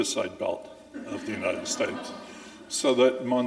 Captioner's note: audience chuckling